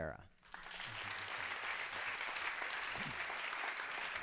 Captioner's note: applause